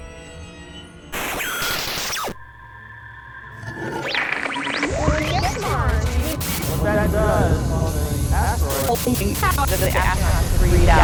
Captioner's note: sound Effects